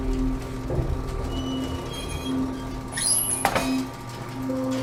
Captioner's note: elevator sounds